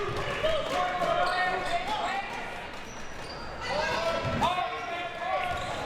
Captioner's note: audience chattering and yelling